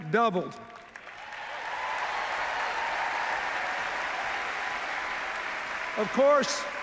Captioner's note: cheers, applause